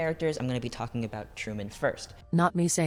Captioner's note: robot voice